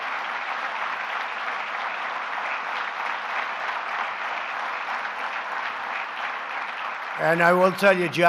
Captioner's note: applause